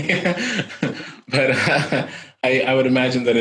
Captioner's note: laughing